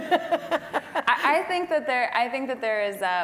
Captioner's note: laugh